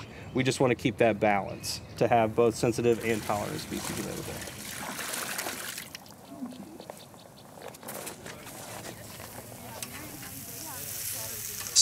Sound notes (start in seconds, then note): 2.8 water splashing; 6.0 students chatting indistinctly